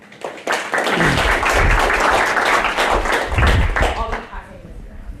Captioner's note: applause